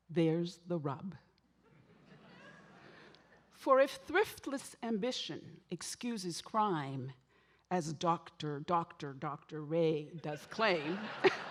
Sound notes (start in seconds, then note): 1.8 audience laughing; 10.9 laughs